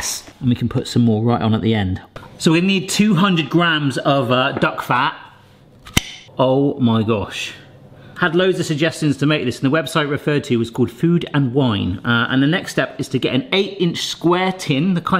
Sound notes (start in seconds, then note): 5.8 jar pops open